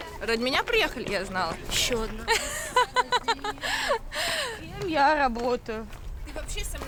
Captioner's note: laughter